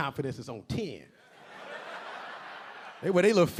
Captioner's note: audience laughing